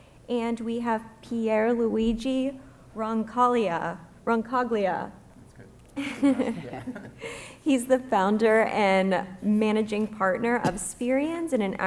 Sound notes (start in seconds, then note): 6.0 laughs